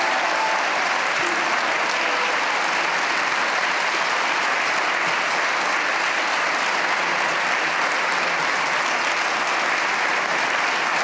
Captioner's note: cheers and applause